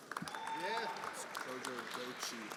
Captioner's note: everyone applauding